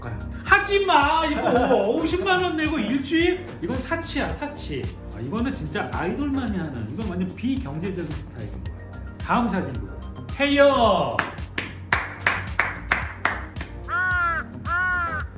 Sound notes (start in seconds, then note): 11.1 clap